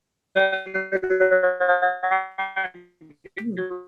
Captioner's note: distorted audio